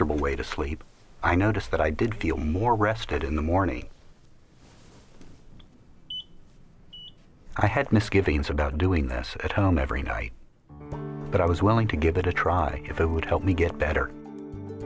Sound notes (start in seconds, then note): 6.0 beep beep